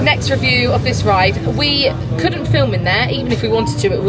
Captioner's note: none